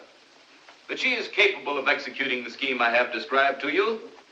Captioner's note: none